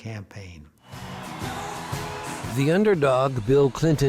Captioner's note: cheering crowd